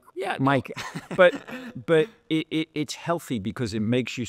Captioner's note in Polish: śmiech